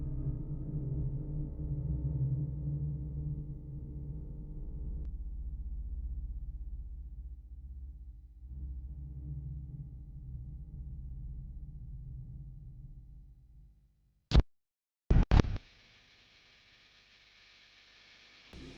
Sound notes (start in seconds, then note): 15.1 static flipping; 16.1 static humming